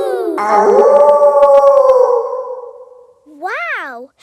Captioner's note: kids howling; wolf howling loudly